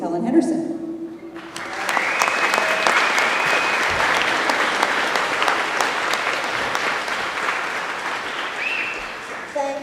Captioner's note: applause